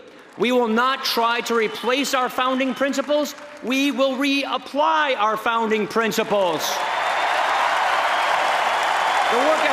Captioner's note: applause